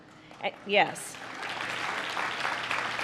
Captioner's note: applause